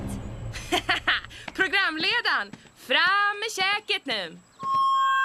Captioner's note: laughs